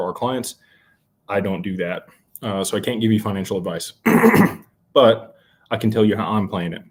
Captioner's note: clears throat